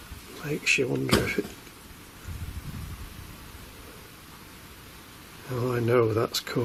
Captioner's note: banging